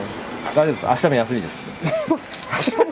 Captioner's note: laughs